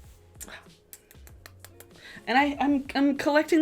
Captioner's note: kisses